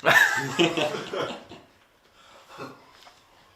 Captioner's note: all laugh